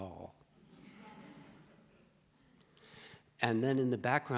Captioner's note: audience laughs